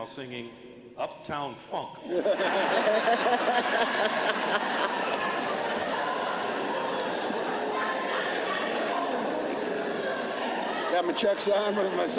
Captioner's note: laughter